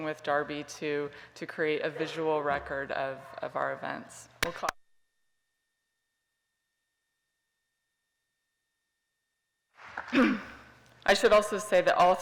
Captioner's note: applause